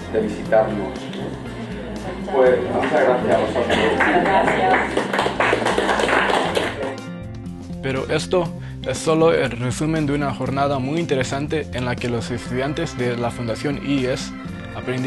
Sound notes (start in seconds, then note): 6.5 applause